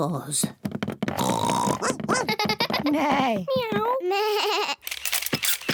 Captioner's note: all make animal noises; camera shutters clicking